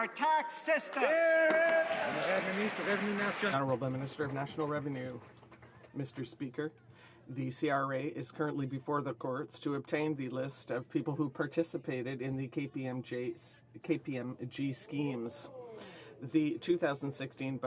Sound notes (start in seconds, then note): 5.3 some Applause